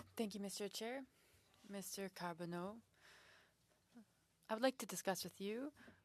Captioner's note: speaking French